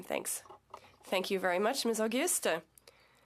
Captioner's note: speaking French